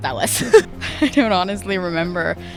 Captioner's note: laughing